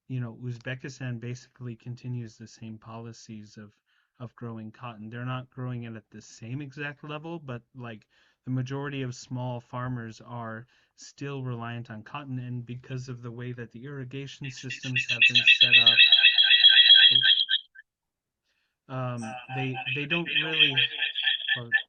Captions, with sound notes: you know, Uzbekistan basically continues the same policies of growing cotton. They're not growing it at the same exact level, but like the majority of small farmers are still reliant on cotton. And because of the way that the irrigation systems have been set up- (audio warbling) Oh. (audio warbling)